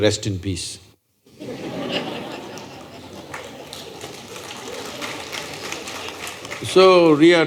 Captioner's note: laughter/Applause